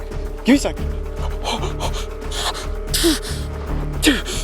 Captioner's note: rapid panting